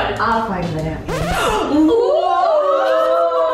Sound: record scratching

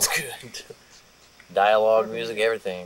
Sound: laughs

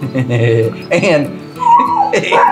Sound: laughs

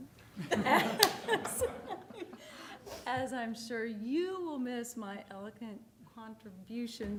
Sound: laughter

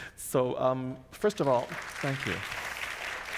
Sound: audience applauds

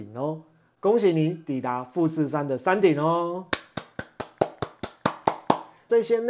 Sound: applause

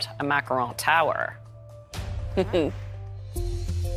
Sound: chuckles

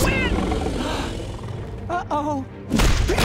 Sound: gasping; grunting

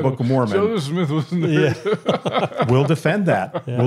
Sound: chuckles

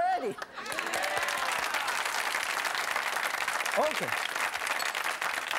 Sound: crowd; applause; claps

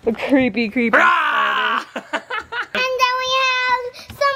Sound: playfully yells

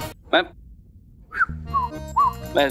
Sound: whistling

